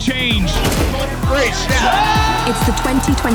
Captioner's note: cheers